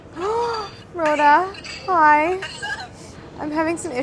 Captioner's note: gasps